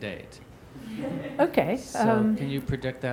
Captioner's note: laughing